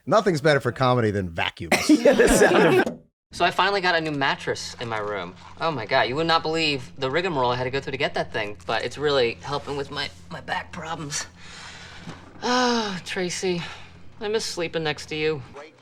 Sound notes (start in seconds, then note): 1.7 all laughing